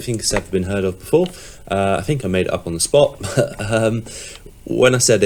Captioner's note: chuckling